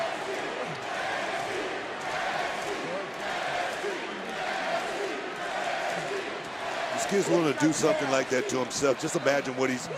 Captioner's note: crowd chants "nxt"